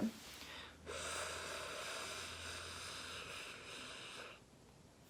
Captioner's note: inhaling